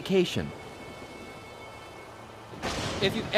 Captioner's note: thunder